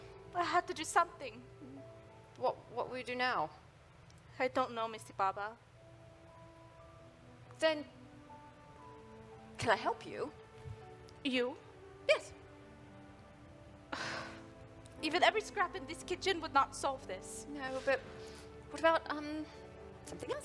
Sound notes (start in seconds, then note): 13.9 sighs